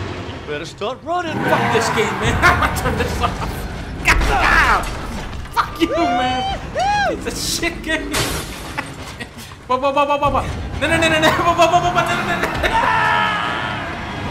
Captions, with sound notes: "You better start running, boy!" Fuck this game, man! [laughing] Turn this off! Ga-gah! Fuck you, man! "Whoohooo!" Piece of shit game! [laughing] Whoah whoah whoah whoah! No no no no no, whoah whoah whoah! No no no! [laughing]